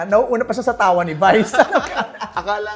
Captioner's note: laughter